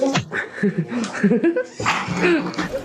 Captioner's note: giggles